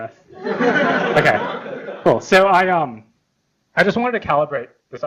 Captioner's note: laughter